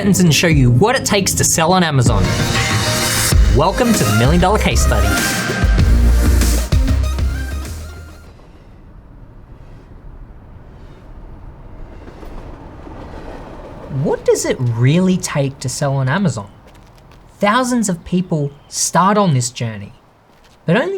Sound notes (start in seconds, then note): 10.2 train trotting